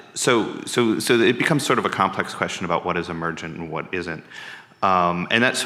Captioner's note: none